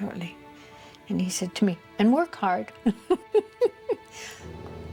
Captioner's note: laughs